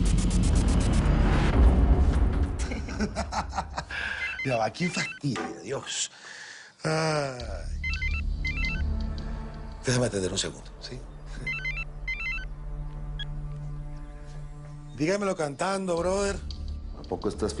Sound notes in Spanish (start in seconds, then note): 2.6 Risas; 4.1 Suena el celular; 7.7 Suena el celular